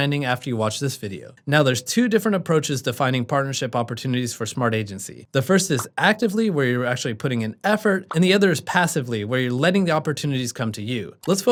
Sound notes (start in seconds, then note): 5.7 bubble popping; 8.0 bubble popping